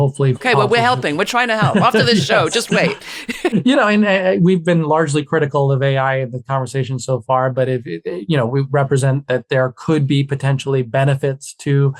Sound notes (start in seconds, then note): 3.3 laughing